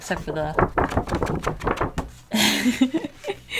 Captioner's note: wiggles paper so it makes a noise